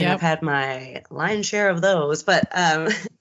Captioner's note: giggles